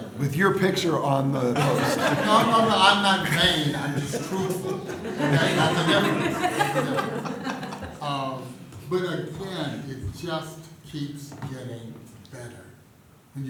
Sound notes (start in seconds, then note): 5.0 laughter